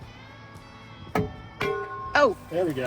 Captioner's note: metal clangs